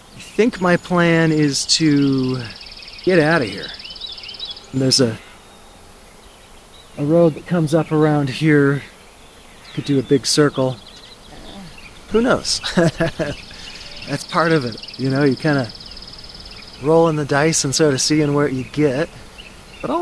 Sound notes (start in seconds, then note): 11.2 laugh